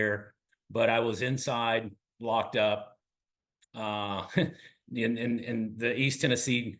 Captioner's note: laugh